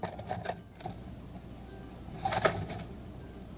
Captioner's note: coal Tit's call